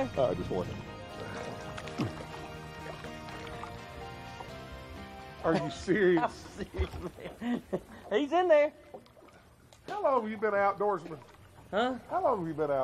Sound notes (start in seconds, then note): 5.4 laughs